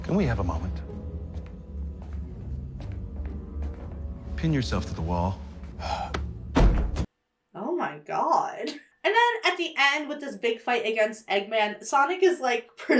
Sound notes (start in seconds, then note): 0.0 whimsical music; 5.8 Eggman exhales sharply; 6.5 body thuds